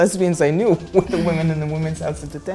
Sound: chuckles

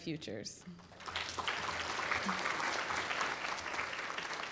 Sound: applause

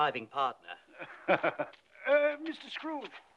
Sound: man 1 chuckles

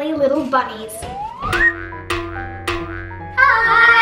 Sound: bouncing

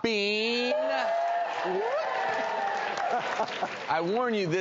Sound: audience cheers

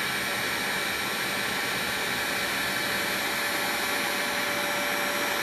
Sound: white noise from heat gun

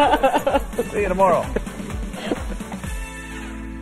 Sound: laughter

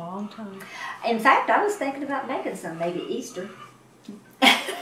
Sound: laughs

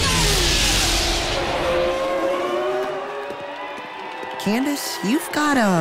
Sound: engines roaring

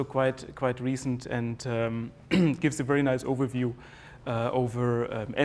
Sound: cough

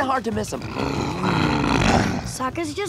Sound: growling

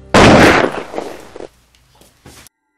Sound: sniper fire

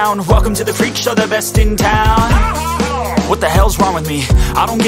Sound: ha ha ha

